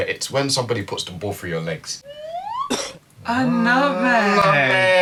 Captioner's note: coughs